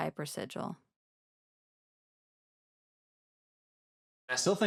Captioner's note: silence